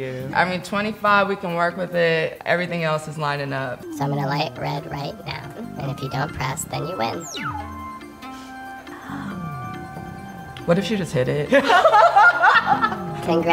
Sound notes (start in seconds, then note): 6.8 button beeps; 11.4 laughs